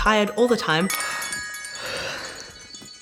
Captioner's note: yawns